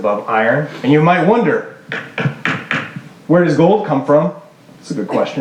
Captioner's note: banging